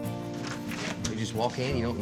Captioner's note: opens door